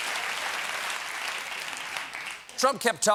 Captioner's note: cheers and applause